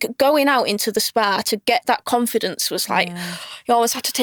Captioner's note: inhales deeply